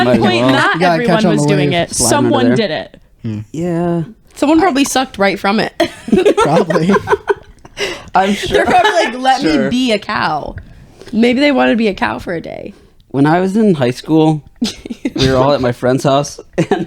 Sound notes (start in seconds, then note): 6.0 laughing